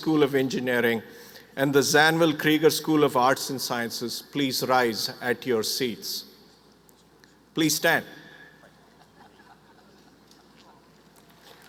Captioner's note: applause